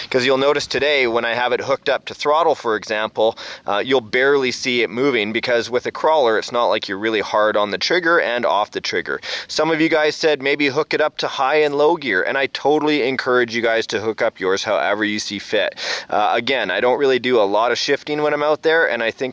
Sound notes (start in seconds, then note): none